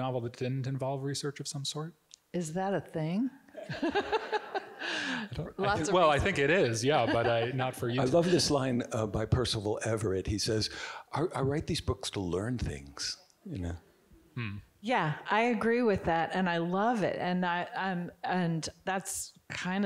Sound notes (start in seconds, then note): 3.6 chuckles